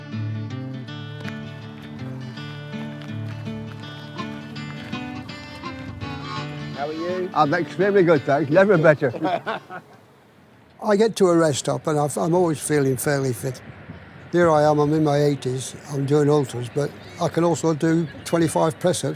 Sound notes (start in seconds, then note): 8.1 laughter